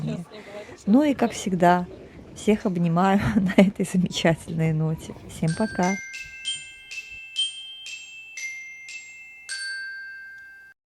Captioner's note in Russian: колокольчик